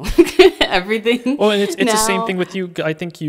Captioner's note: laughing